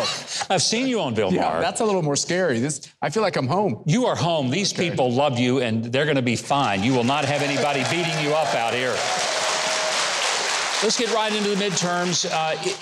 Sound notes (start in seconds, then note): 0.2 laughs; 9.1 audience applauding